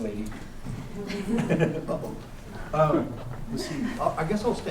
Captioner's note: laughter